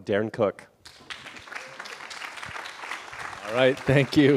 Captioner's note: applause